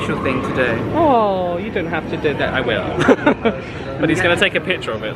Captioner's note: laughs